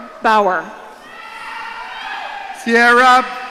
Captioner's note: audience cheering